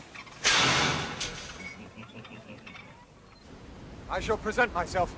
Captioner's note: clang; chuckling